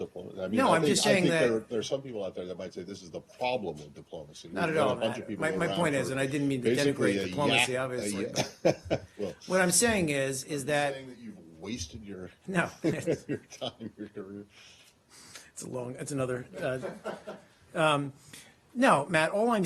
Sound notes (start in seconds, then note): 16.9 laughter